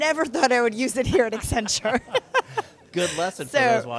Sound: laughs

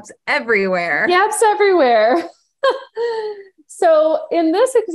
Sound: laughing

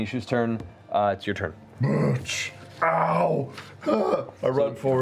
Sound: pained noises

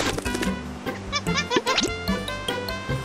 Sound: monkey chattering

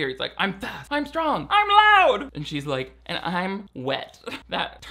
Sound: laughing

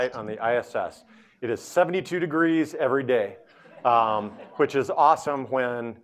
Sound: audience laughing

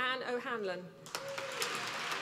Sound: applause

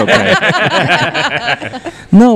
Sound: laugh

